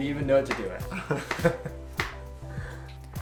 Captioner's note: laughing continues